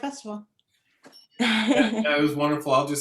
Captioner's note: laughs